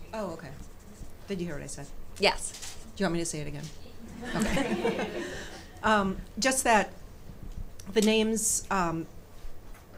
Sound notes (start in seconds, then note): 4.1 audience chuckles